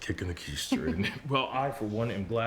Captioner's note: Rachel chuckles